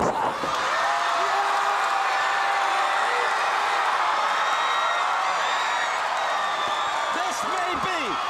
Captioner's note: crowd cheering